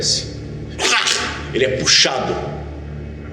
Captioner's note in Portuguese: grunhido